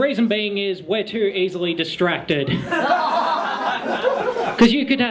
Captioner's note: laughter